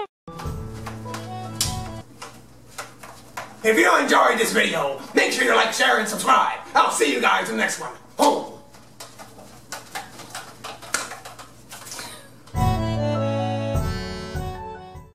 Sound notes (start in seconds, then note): 11.8 laughs; 12.5 musical outro